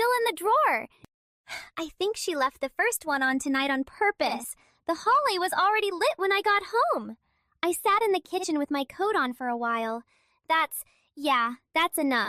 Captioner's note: breath